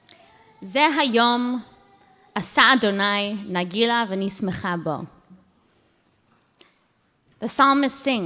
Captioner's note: speaking hebrew